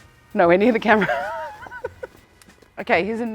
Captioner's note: laughter